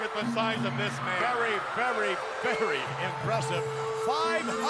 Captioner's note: audience cheers